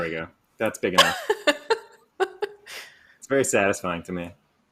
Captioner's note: laughs